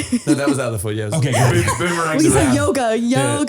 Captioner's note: all laughing